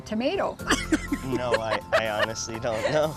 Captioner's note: laughs